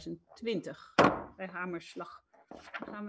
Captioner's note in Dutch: Voorzitter klopt met hamer